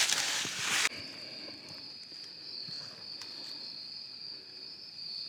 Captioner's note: insects chirping